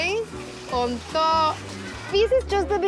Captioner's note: speaking Spanish